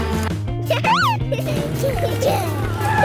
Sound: chuckling

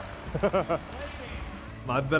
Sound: laughing

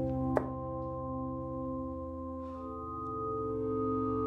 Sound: dart smacks

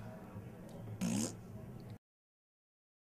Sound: blows raspberry

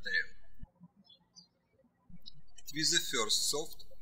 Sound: birds chirping

